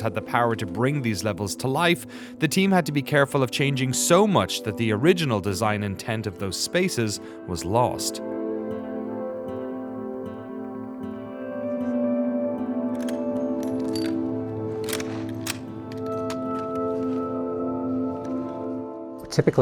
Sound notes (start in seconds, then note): 8.4 gentle music; 13.5 bullets clinking; 14.6 gun cocking; 16.5 gentle music